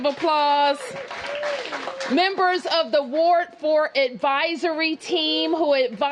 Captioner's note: applause